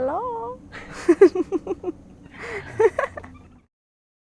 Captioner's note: giggles